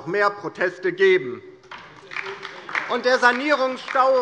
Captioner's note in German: Beifall DIE LINKE